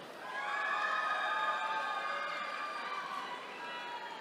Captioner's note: attendees cheering